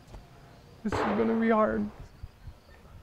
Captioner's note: gun blasting